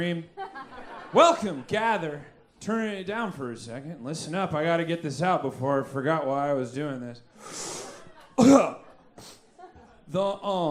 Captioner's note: inhales